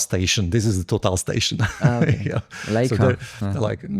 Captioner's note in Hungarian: nevetés